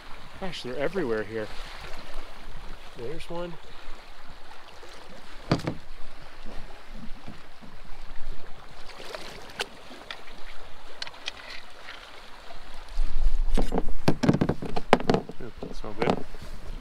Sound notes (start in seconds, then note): 14.0 clunk